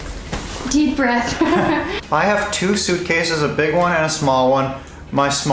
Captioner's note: laughs